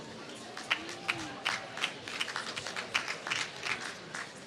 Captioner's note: applause